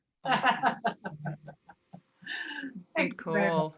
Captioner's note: laughs